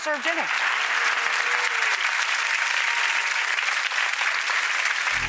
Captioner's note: audience applauding